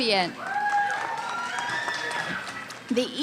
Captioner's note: cheering